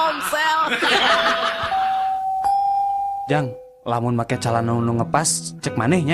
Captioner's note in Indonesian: tertawa